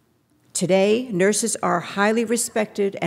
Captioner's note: none